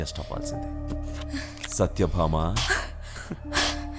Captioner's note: gasping